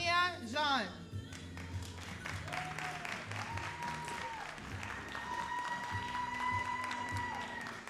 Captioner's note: all applauding and cheering